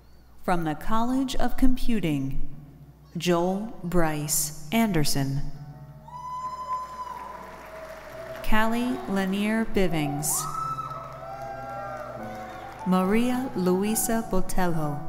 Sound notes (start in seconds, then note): 6.2 classical music; 7.2 audience applauding